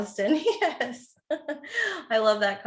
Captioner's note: laughs